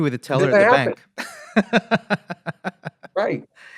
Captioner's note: laughs